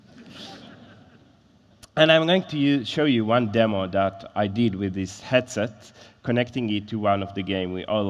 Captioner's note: laughter